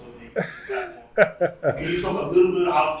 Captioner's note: laughs